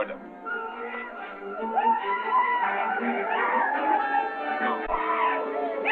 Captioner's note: men cheering